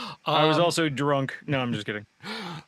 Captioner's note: laughing